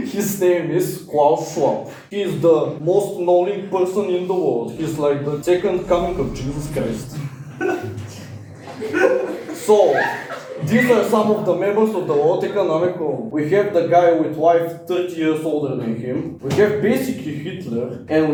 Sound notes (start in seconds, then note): 7.6 laughing